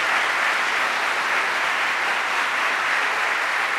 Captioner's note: applause